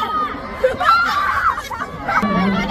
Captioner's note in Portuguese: segurando o riso